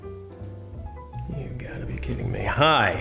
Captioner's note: muttering